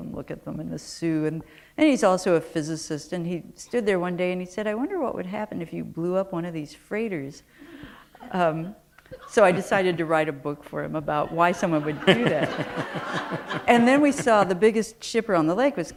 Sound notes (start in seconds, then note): 11.2 laughter